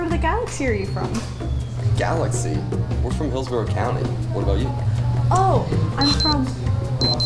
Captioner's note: beep